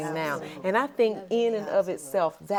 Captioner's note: ladies murmuring in agreement